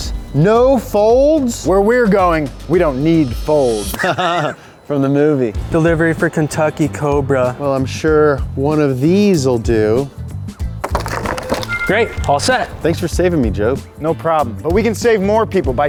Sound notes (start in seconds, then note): 3.9 laughs; 10.8 cards clattering